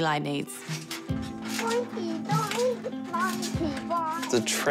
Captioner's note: trampoline springs creak